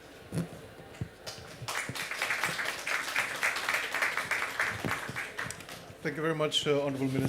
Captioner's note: applause